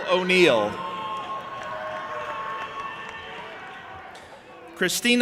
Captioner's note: audience applauding and cheering